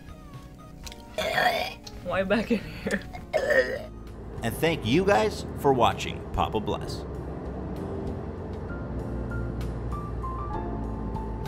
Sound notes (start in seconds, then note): 0.8 retching; 6.9 outro music